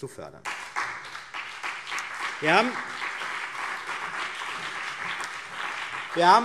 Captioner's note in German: Beifall CDU und BÜNDNIS 90/DIE GRÜNEN